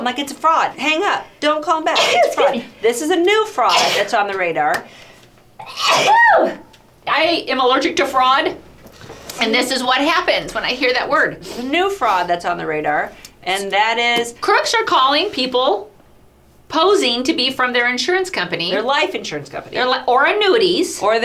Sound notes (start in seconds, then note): 3.6 sneezes; 3.6 sneezes again; 5.6 sneezes again, louder; 11.4 sniffling